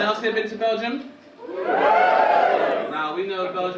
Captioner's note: audience cheering